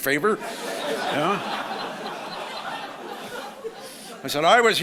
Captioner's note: audience laughs